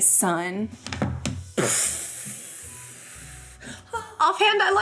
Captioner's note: makes explosion sound